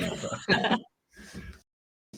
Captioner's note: laughter